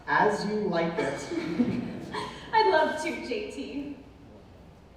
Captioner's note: laughing